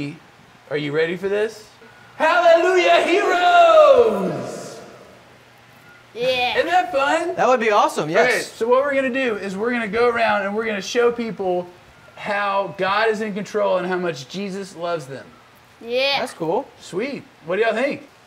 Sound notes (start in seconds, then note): 2.2 echoing